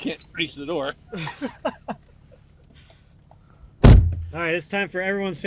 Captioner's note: laughs